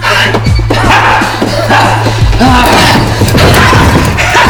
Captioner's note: laughs